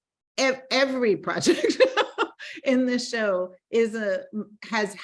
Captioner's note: laughing